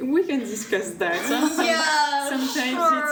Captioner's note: laughs; laughter